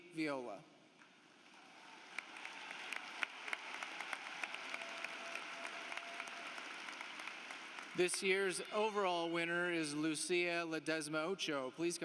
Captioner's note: applause